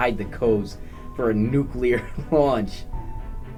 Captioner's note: laughs